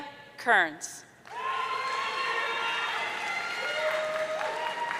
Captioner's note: audience cheering